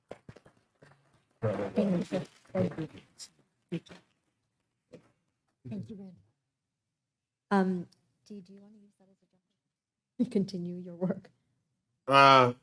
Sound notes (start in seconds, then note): 1.4 attendees clapping; 9.5 faintly speaks